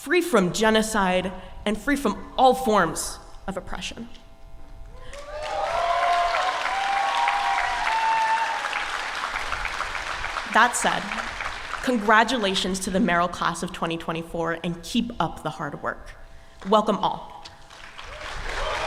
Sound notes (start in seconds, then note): 5.0 applause